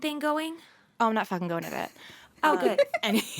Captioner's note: laughter